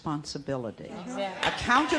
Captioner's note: applause